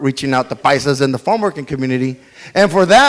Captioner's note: speaks foreign language